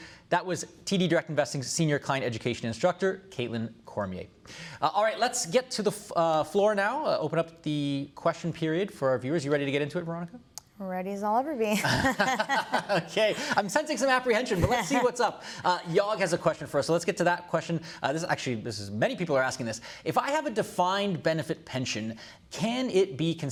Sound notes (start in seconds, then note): 11.7 laughter